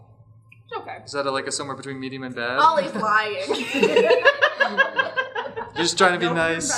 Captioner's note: laughter